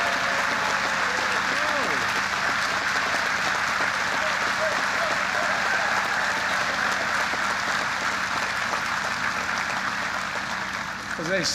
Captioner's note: applause